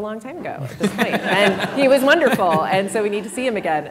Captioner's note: audience laughs